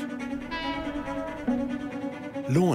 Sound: train horn blows

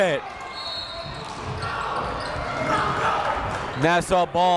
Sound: whistle blows

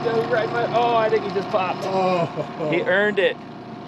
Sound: groaning

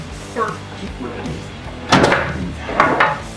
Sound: murmurs; clunking wood

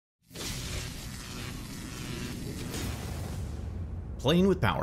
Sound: electricity crackling

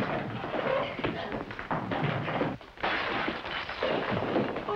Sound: shatter

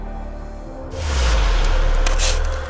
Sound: the universe rumbles; sandpaper scrapes

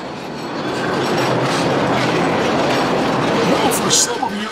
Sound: loud train noise

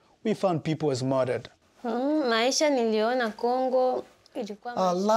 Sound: speaking in foreign language

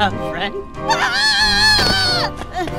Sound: screams

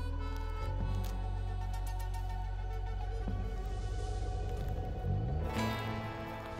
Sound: soothing music; footsteps crunching

